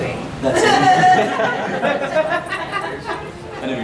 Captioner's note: audience laughing